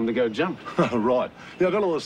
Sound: laughs

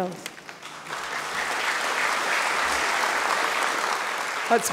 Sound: audience clapping

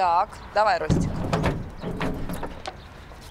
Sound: metallic sounds

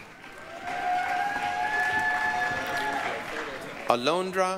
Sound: applause, cheering

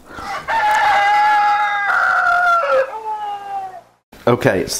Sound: strangulated cock crowing

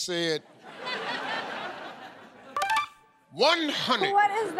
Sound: laughter

